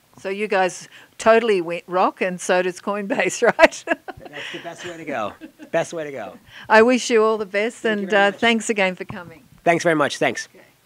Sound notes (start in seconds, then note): 3.1 laughs